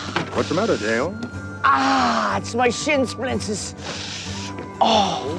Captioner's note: hissing